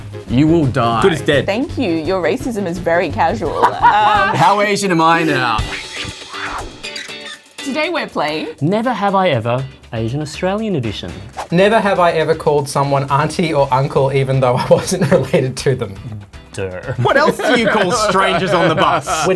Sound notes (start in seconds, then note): 3.5 laughs; 5.9 upbeat music